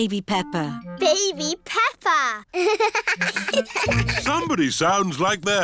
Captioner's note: both laugh